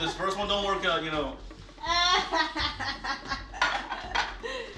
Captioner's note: laughing